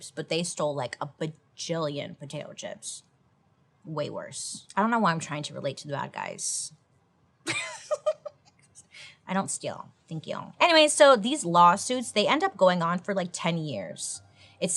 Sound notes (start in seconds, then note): 7.5 laughs